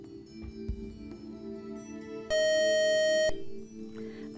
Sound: buzzer

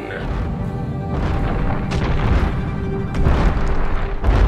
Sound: gigantic footsteps shake the building

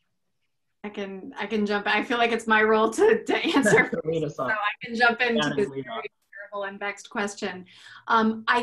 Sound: laugh

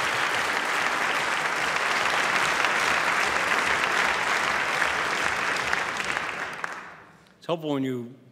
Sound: applause

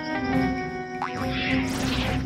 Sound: legs boing

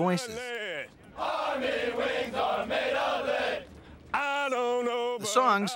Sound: chanting

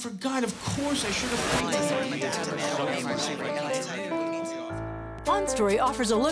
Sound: multiple voices chattering

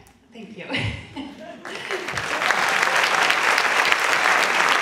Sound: audience clapping

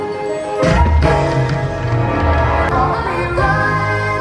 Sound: fireworks bang

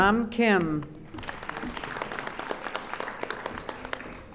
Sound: audience applauding

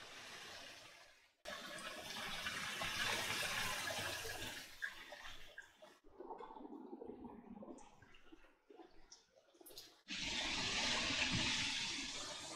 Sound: rain

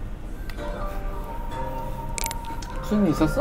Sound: nom nom

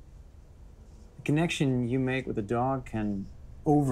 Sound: none

